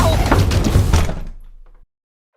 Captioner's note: slam